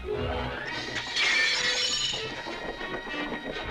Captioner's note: glass shattering